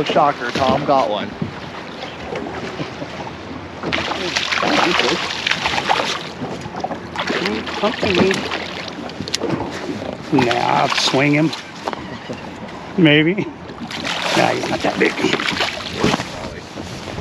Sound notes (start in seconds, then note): 2.6 fish splashing; 14.4 chuckling